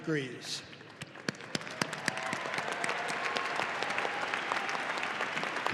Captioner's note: audience applauding